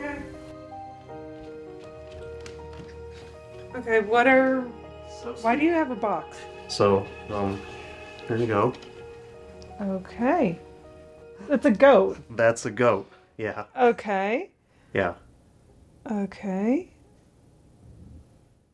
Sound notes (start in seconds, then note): 1.0 footsteps running